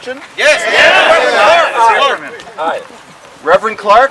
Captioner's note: crowd